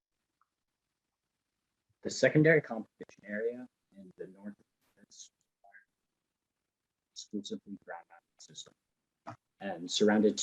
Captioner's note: distorted audio